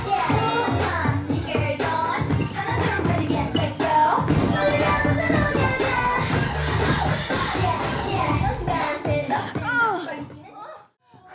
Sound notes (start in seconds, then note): 2.1 thump thump; 4.2 sound of footwork; 9.6 moaning in exhaustion